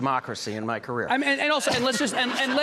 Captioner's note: audience laughing